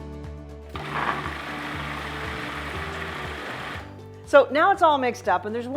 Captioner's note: food processor whirring